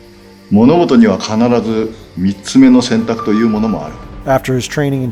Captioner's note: speaking foreign language